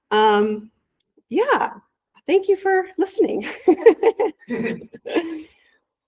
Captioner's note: laughs